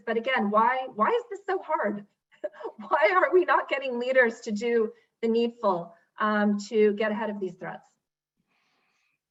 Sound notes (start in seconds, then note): 2.4 laughs